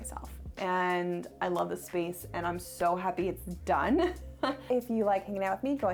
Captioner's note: laughs